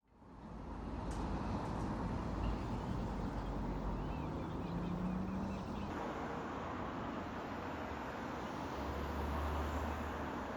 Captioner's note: ambient morning sounds - birds chirping, fan blowing